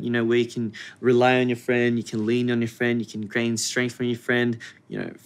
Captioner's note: none